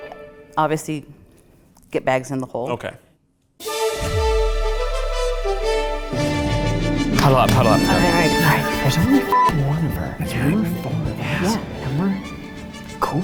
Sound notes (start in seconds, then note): 3.7 upbeat music; 9.3 beep